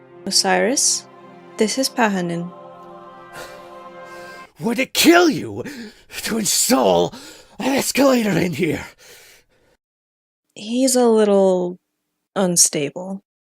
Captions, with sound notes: Osiris, this is Pahanin. Would it kill you *GASP* to install *GASP* an escalator in here?! He's a little... unstable.